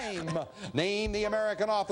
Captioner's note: bell ringing